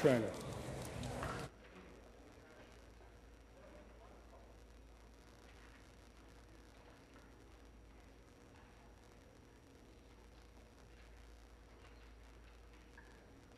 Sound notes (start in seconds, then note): none